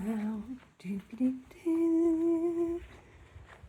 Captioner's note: humming